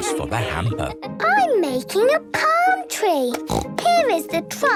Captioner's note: snorts